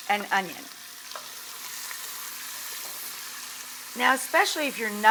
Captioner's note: pot sizzling